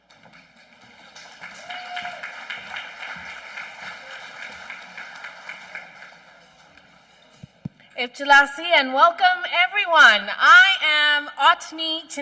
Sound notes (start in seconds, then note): 0.0 applause